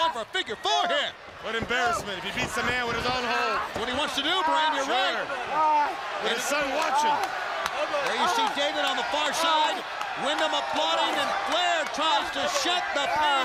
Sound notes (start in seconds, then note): 7.8 crowd chatter